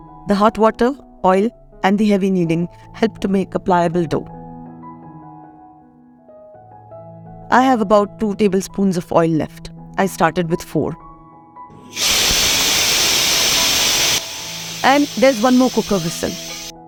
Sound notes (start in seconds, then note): 11.9 A loud hissing again